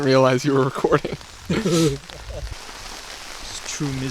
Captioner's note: laughing